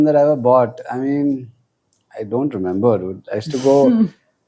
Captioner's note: laughs